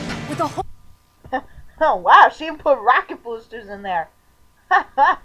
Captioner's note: chuckling